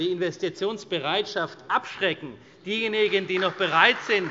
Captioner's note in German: Beifall Freie Demokraten und vereinzelt CDU